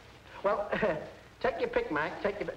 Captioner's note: chuckles